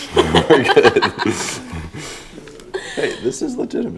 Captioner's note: laughs